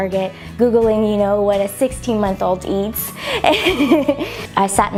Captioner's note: laughs